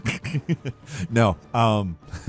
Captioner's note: Falcon chuckles